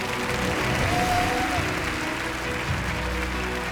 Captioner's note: audience cheering and applauding; wondrous music